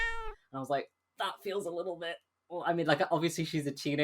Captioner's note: wincingly